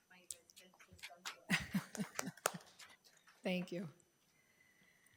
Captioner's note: people clapping